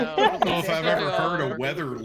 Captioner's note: people laughing